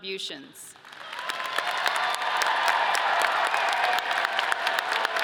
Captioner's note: audience cheers